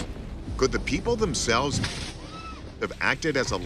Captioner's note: lightning cracking; woman screaming